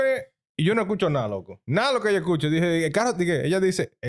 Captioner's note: speaking In Foreign Language